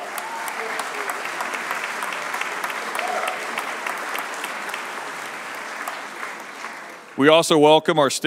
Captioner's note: applause